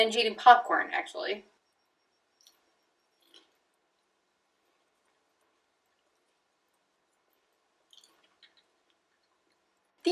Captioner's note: sounds of popcorn being eaten